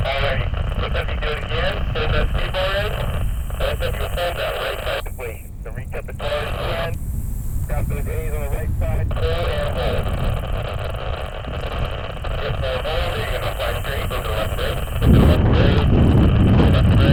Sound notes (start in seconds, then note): 4.1 interference drowns out the radio